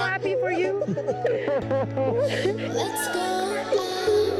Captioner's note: man laughs